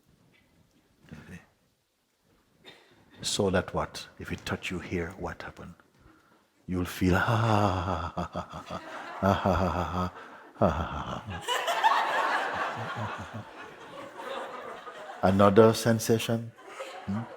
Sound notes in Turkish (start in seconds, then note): 9.9 Kahkaha; 12.1 Daha çok kahkaha